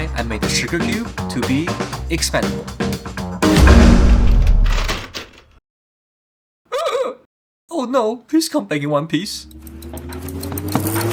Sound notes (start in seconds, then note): 3.5 explosion